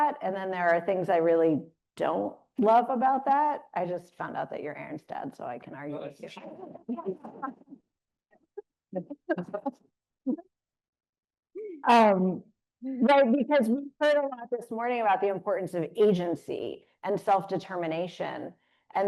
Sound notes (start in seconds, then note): 6.7 panelists laughing